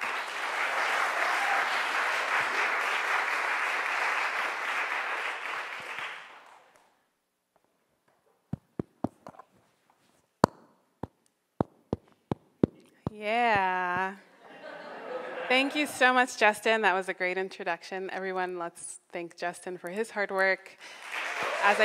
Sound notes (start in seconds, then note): 0.0 crowd applauds; 8.1 tapping mics; 14.2 crowd laughing